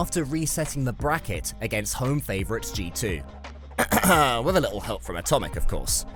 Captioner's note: cough